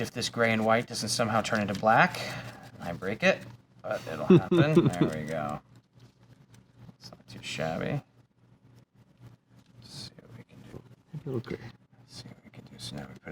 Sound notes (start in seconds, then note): 4.0 chuckles